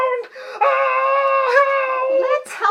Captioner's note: yells